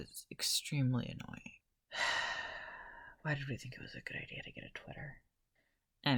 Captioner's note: sigh